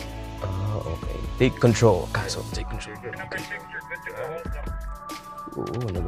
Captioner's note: radio